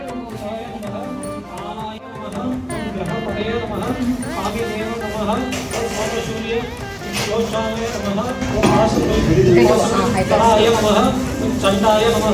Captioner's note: mantra reciting